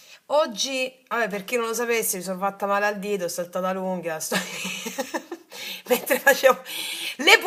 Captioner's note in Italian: risate